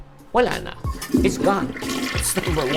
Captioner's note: toilet flush